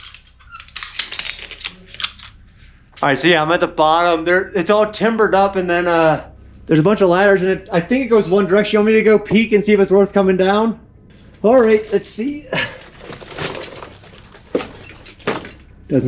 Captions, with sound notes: (metal clanging) All right, so, yeah, I'm at the bottom. There, it's all timbered up, and then there's a bunch of ladders in it. I think it goes one direction. Do you want me to go peek and see if it's worth comin' down? All right, let's see.